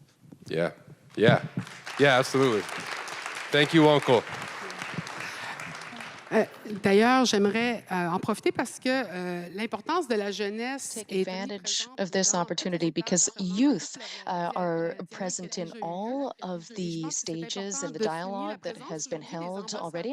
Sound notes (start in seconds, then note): 4.1 applause; 6.7 speaking French